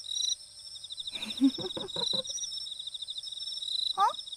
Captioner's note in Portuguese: risos